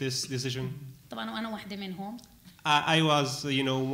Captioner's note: speaking arabic